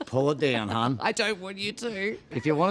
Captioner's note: laughing